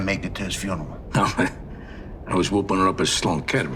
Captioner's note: laughing